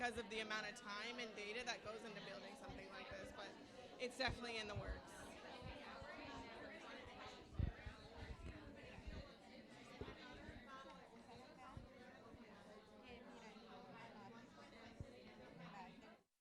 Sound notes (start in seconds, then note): 5.8 people talking